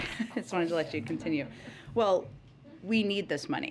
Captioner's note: laughs